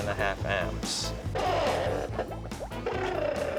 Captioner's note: <i> crackling</i>